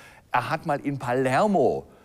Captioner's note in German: none